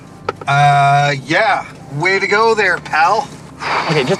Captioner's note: car rattles; sighs